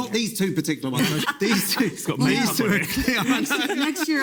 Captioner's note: people laughing